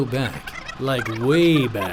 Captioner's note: film reel stuttering